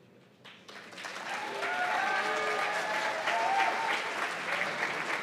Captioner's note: cheers and applause